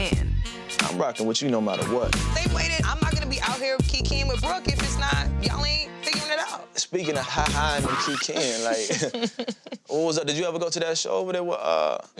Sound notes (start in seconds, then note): 7.8 laughs